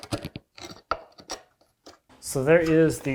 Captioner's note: chisel on wood scraping